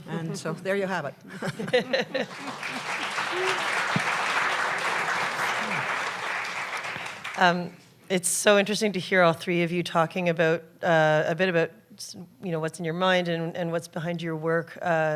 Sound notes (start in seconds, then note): 1.3 laughter; 2.1 applause